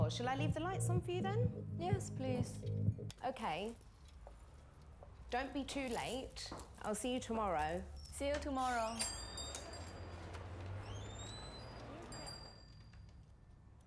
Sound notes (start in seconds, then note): 8.9 door bell dings; 11.0 door squeaks